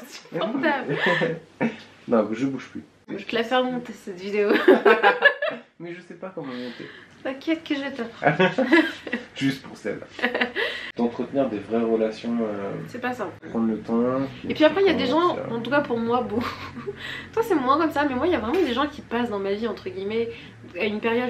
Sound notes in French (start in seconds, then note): 0.8 rires; 4.5 rires; 8.2 rires